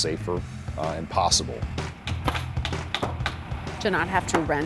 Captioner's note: hammering